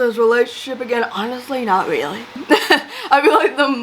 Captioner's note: laughs